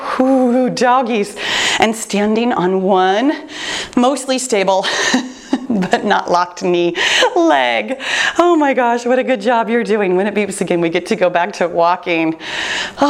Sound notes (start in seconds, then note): 4.9 chuckles